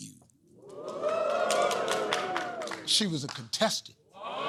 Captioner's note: audience "oohs"